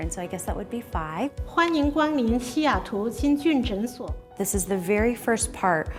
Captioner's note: speaking foreign language